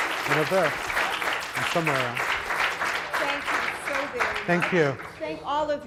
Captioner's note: audience applauds